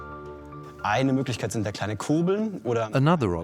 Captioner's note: in German; dubbed in English